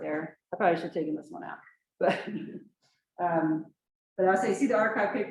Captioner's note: chuckles